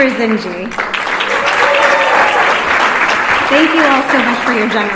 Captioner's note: applause